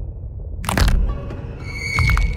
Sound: bones Cracking

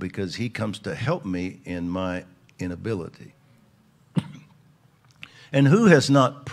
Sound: coughs

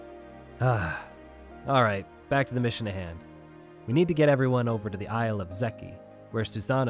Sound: sigh

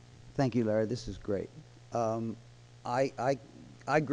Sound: voiceover

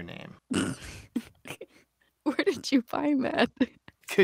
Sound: laughter

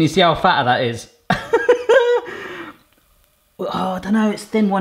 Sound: laughs

